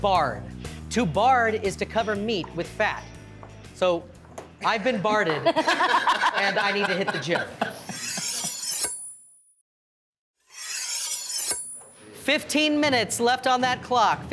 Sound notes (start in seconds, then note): 4.6 judges laughing; 7.8 knives slicing; 10.5 knives slicing